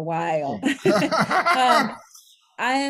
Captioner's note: both laughing